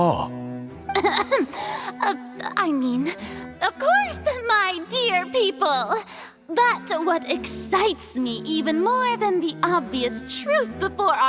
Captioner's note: cough